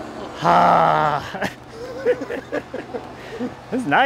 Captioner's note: laughing